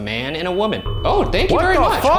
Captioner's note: REM-POD beeps